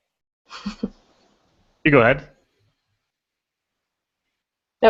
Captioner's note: voiceover